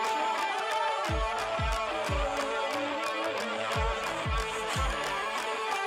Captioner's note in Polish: Aplauz